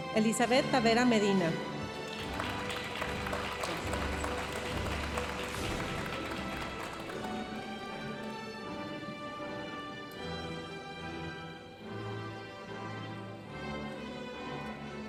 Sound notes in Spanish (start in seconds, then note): 1.8 aplausos de la audiencia; 7.8 continúa la música majestuosa suave en el fondo